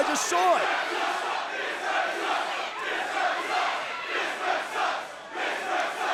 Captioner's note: crowd chants "This ref sucks"